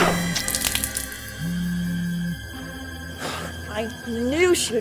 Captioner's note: cellphone vibrating